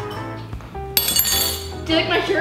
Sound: spoon drops

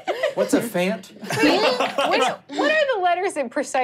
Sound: laughing

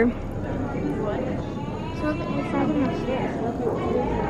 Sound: chattering

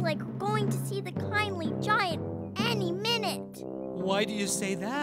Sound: Jelly Beans arguing

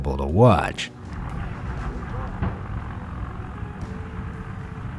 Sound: explosives exploding

